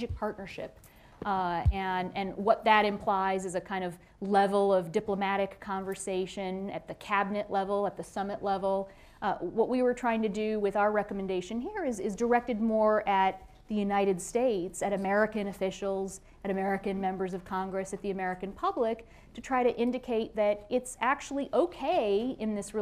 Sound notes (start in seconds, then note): none